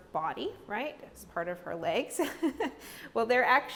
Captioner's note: chuckles